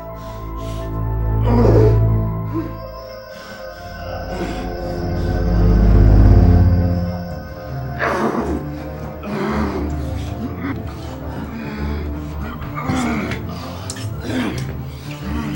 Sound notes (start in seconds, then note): 1.5 groans; 9.2 grunting